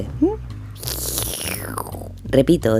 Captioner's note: sips coffee